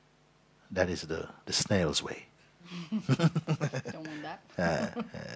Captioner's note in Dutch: gelach